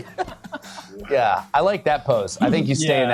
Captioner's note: laughing